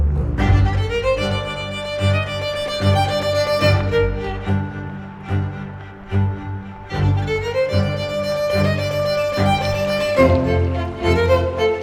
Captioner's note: thunder